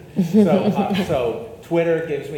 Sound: audience laughs

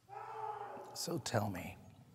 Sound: distant screaming

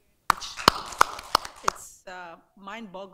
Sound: clapping

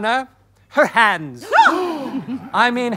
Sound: gasps

